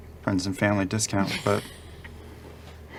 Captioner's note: laughs